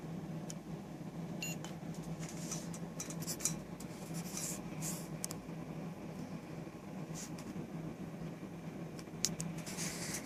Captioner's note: display blinking